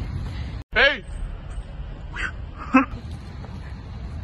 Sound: whistle, laugh

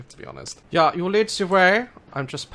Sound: German accent

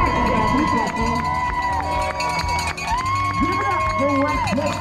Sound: bell ringing; crowd cheering

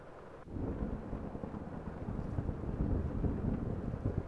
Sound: rolling thunder

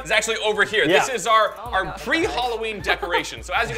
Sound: laughs

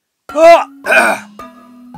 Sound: chill music; clears throat

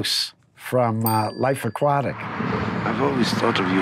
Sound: bell dinging

